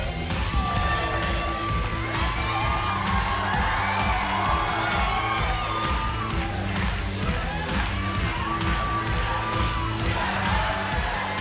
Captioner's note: crowd cheering